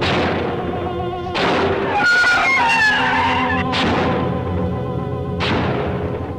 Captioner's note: gun firing; creature screeching